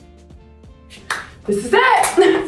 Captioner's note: laughs; Alex Consani clapping